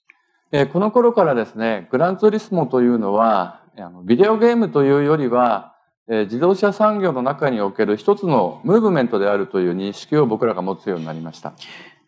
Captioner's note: speaking japanese